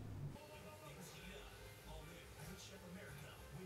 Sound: TV blaring

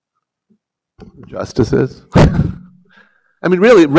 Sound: chuckles

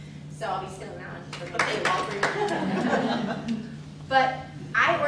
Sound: laughter

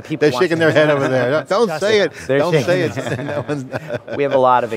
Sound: laughs

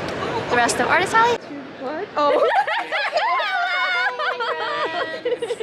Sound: laughter

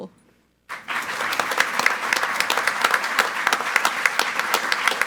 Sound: group applauding

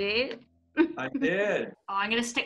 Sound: laughter

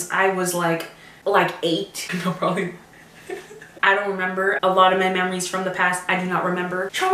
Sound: laugh

